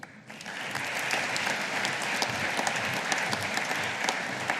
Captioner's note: audience applauding